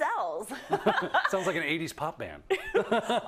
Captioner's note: laugh